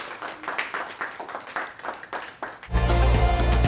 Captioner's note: crowd claps